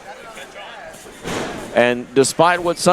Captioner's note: body crashing